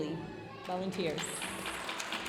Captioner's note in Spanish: hablando en inglés; aplausos de la audiencia